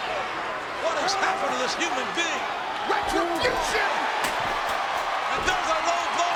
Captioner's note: presenter speaking faintly off mic